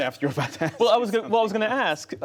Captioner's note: laughter